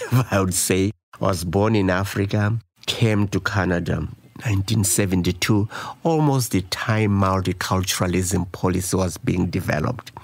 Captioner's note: laughs